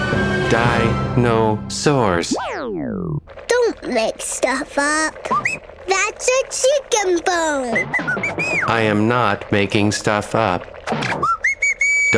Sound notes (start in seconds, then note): 7.7 whistling; 11.0 whistling